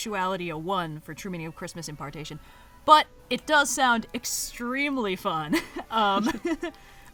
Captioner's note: laughs